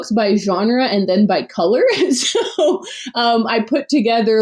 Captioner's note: laughs